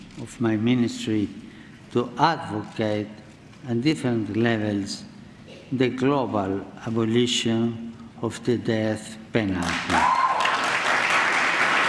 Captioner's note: applause